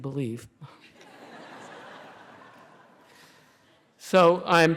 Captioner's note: laughter